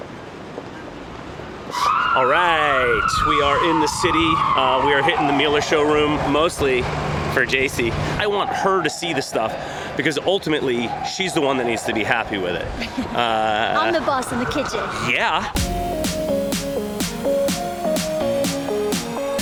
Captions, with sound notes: - All right, we are in the city, we are hitting the Miele showroom. Mostly for Jacey. I want her to see the stuff. Because ultimately, she's the one that needs to be happy with it. (laughs) - I'm the boss of the kitchen. - Yeah. (upbeat music)